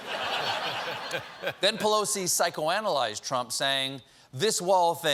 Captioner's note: laughter